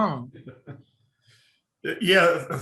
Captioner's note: laughing